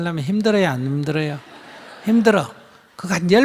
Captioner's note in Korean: 청중 웃음